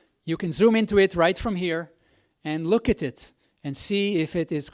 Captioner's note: none